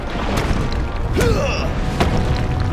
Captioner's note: grunting